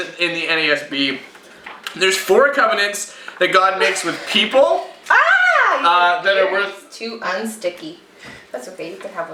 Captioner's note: aaah!